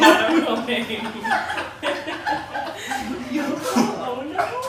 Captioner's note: laughing